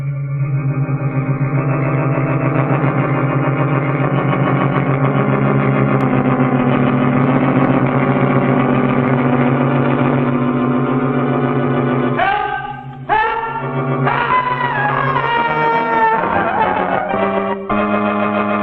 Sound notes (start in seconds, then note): 14.0 screaming